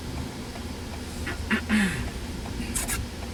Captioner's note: clearing Throat